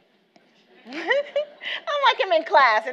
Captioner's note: laughs